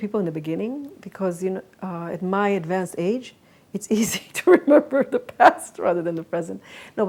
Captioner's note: laughs